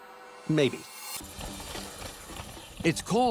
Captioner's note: light gentle music; bobsleds rattling